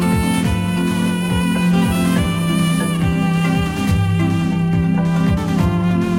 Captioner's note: moth-honks as the krill approaches in the background